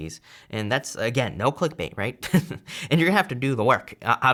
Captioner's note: chuckles